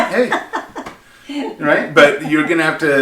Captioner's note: laughing